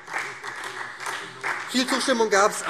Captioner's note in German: Beifall SPD